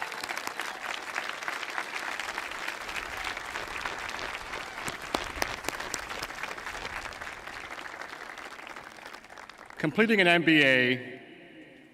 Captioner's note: applause